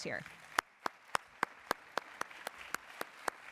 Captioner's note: applause